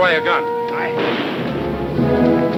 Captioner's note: dramatic music; guns firing